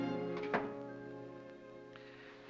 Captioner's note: ominous music; door closes